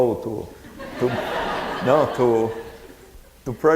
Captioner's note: audience laughing